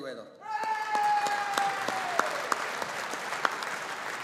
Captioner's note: audience applauding